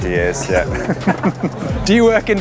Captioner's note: both laugh